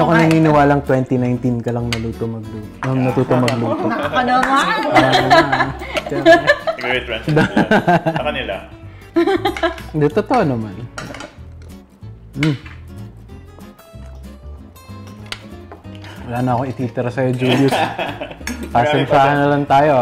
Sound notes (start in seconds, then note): 3.7 laughs